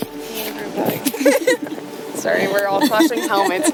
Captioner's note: laughter